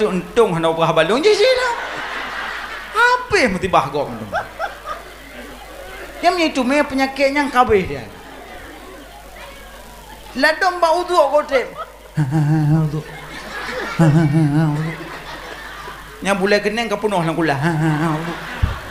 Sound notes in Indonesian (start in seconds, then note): 14.1 tertawa